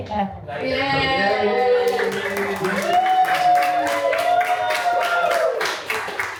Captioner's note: cast and crew cheer and applaud